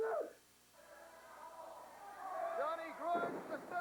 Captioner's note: crowd chatter